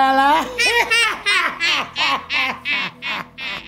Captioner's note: witchy laughing